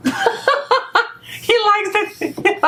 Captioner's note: laughing